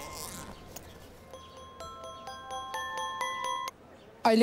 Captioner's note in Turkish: Telefon Çalıyor